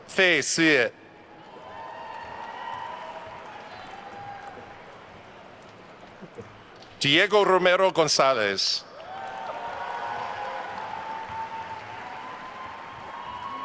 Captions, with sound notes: Fei Su. (attendees cheering and applauding) Diego Romero Gonzalez. (attendees cheering and applauding)